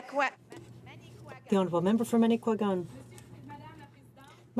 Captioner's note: speaking French